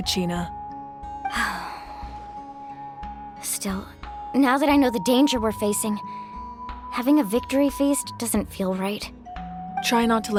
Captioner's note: sigh